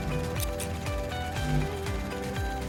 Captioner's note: scissors snipping; static buzzing